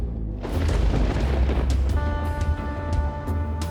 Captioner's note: thunder roaring